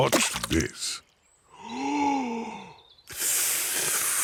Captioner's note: takes big breath and blows